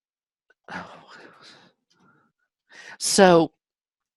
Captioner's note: sighs